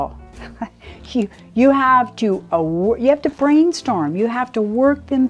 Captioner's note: laughs